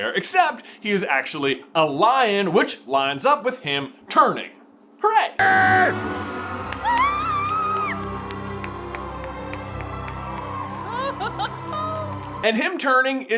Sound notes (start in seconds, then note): 7.9 golf clap; 10.9 giggling